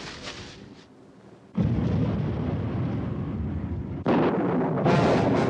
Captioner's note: thunderclap